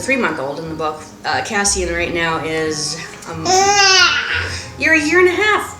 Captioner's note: baby growl